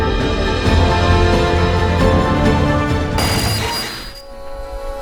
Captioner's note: car engine revving